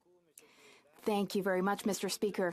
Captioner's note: speaking French